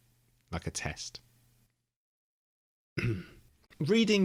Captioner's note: awkward cough